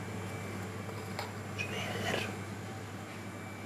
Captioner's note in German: Flüsternd